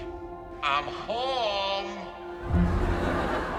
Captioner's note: laughter